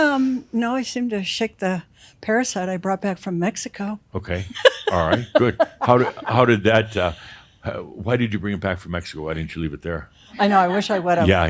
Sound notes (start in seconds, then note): 4.5 she laughs